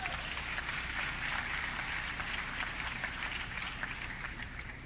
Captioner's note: audience clapping